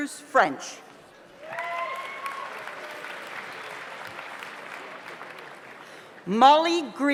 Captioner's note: audience applauds; audience cheers